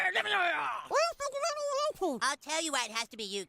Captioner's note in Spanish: Kenny habla en voz baja